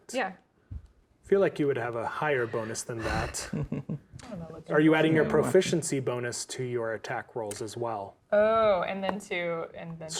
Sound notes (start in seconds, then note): 2.4 sighs; 3.0 chuckles